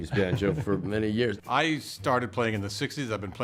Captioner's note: laughter